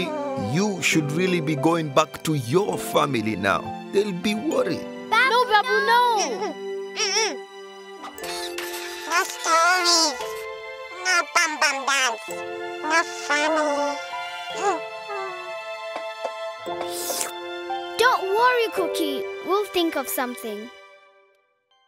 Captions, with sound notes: - Cookie, you should really be going back to your family now. They'll be worried. - Babu, no! - No, Babu, no! - Nuh-huh. No stories. No bum-bum dance. No family. (sighing) - Don't worry, Cookie, we'll think of something.